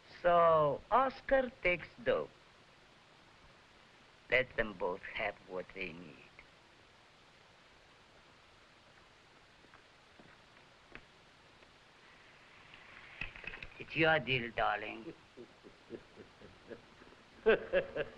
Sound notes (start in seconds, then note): 14.9 laughing